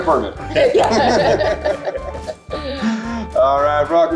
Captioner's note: group laughs